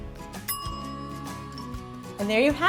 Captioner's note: dinging